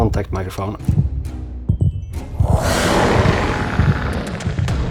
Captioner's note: sound effect